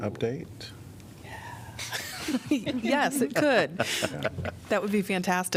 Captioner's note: laughter